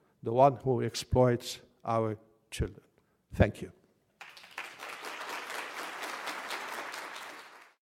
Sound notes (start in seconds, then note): 4.2 applause